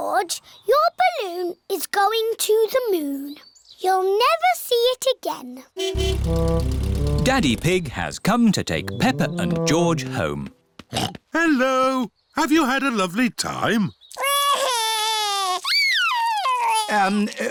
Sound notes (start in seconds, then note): 5.8 horn honking; 11.3 snorts; 14.7 wails